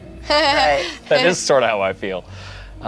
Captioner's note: laughs